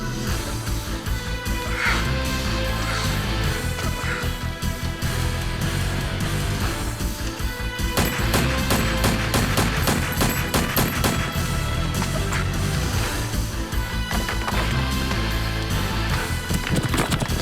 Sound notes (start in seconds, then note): 0.3 slow dramatic music; 7.9 gun fires